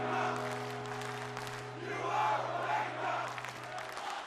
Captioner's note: strums guitar; fans chanting